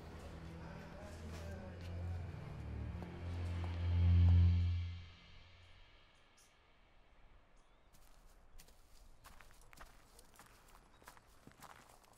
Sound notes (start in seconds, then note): 7.9 footsteps approaching